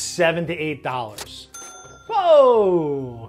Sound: cash register dings

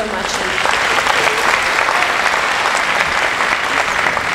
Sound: applauding

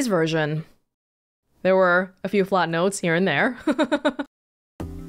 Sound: chuckles

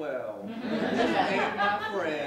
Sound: laughter

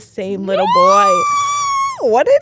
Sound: squeals

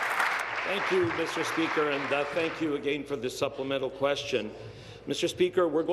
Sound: applause

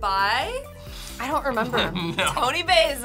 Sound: laughs

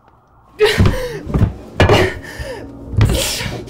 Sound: gasping

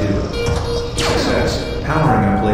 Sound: laser firing sound

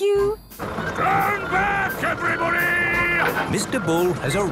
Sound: shouting

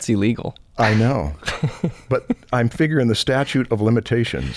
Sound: chuckles

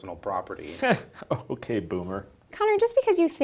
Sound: chuckling

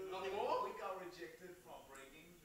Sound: voiceover

